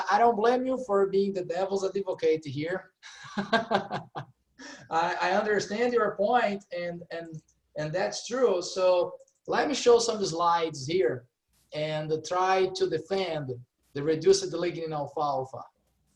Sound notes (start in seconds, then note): 3.0 laughing